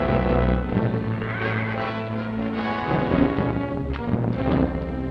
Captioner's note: horse neighs